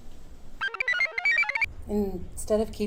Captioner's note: computer chirps